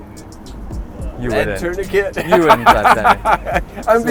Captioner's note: laughs